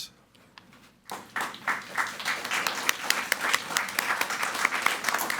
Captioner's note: people clapping